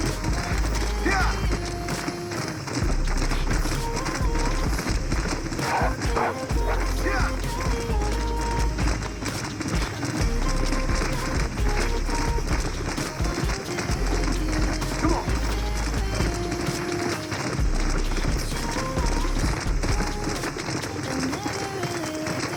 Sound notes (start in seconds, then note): 1.6 music or game and sounds of running horses; 5.6 cries of wolves; 16.3 music or game and sounds of running horses